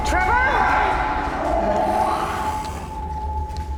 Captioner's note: creature snarls